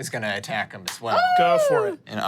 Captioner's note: cheers